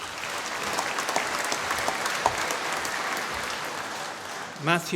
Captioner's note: applause